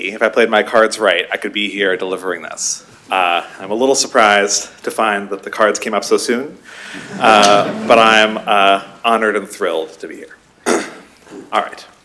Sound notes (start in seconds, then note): 6.8 laughter